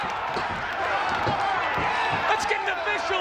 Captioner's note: audience cheers